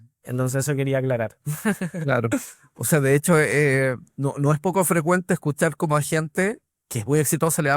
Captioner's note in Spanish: risas